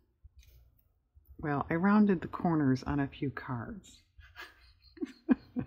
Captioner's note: laughs